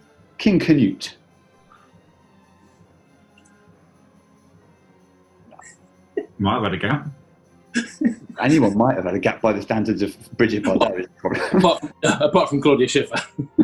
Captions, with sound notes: King Canute. Might've had a gap. [GIGGLING] Anyone might've had a gap, by the standards of Brigitte Bardot. Apart from... Apart from Claudia Schiffer.